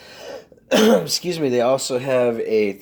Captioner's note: throat clearing